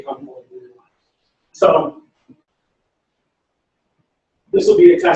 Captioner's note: pause